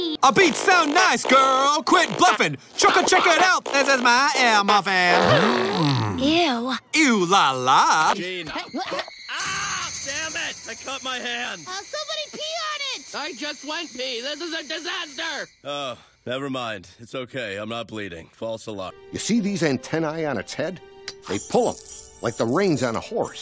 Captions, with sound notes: ( rapping, singing ) - ( making fart sounds ) - Eww. ( speaks gibberish ) ( screams ) Damn it! I cut my hand! - Oh, somebody pee on it! - I just want peeing. This is a disaster! ( sighs ) Oh. Never mind. It's okay, I'm not bleeding. False alarm. You see these antennae on its head? They pull 'em like the reins on a horse.